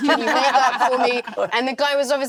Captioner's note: all laughing